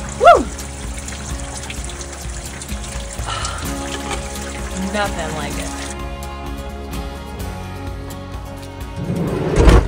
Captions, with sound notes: Woo. (gasping) Nothing like it.